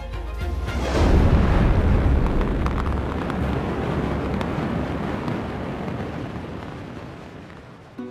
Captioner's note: jets roar